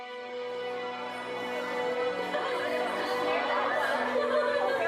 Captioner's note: people chattering